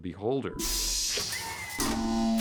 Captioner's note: whooshing; mechanical whirring